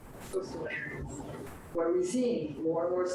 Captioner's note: speaks faintly